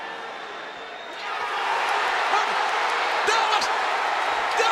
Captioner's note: audience cheering